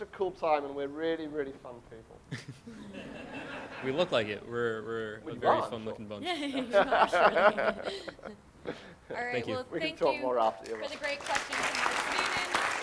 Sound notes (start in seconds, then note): 2.7 audience laughs; 6.2 laughing